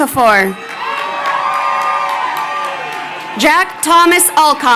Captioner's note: crowd cheering